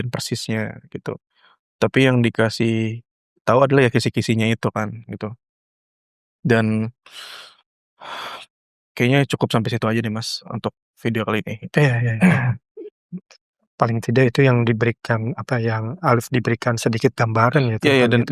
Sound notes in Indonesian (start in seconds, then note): 7.0 terkesiap; 7.1 menghela napas